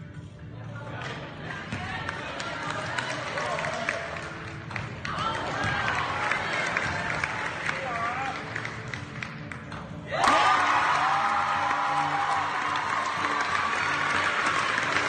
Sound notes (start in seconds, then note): 1.0 people clapping; 10.1 people cheering